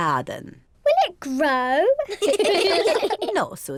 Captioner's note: all laugh